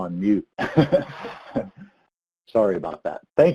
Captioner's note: laughs